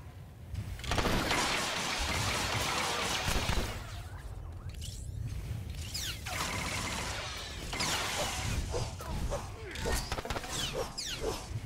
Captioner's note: gunshots